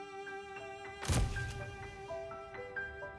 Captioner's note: camera flashes